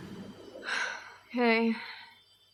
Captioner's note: sighs